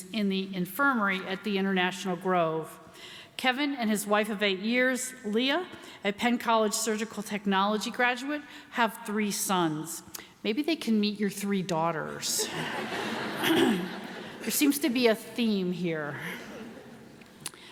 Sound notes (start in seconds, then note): 12.4 laughing